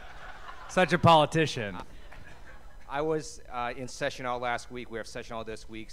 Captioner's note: laughter